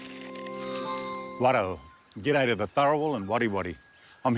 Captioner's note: speaks indigenous language